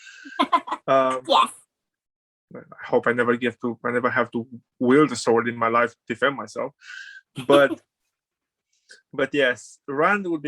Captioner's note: laughs